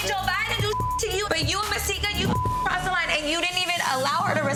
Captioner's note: beep